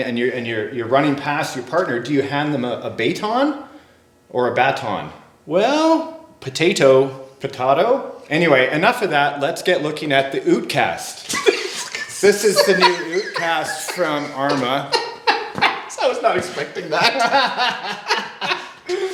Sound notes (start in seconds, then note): 11.6 laughing; 15.8 laughing